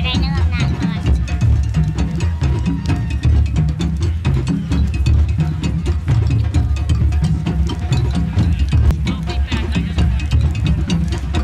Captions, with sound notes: But I know I'm not going to. (thrilling drum music) (crowd chattering)